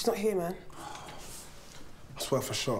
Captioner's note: sighs